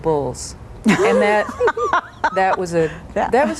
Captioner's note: laughing